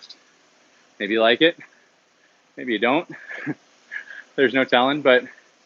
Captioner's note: laughs